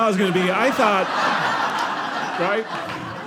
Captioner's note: audience laughing